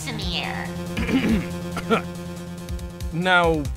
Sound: clearing throat

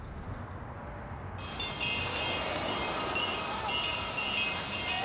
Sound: bells clanging

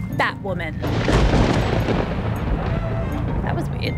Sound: thunder rumbles

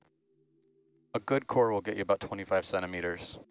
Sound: male Voice

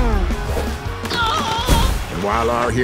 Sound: screaming

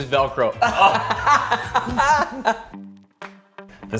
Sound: laughs

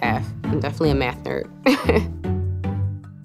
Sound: laughter

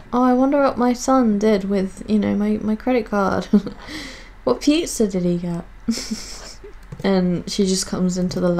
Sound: giggles

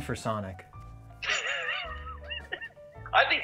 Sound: Ben sputtering with laughter

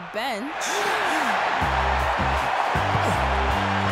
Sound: crowd cheering

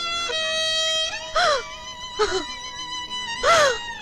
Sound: crying

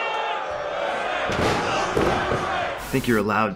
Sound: crowd booing; slamming mat

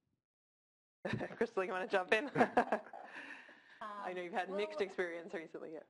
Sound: laugh

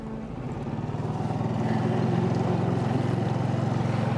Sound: motor accelerating

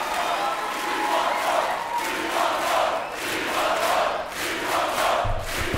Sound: crowd chanting "We want more"

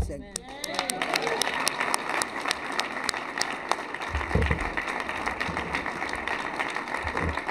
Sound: cheers and applause

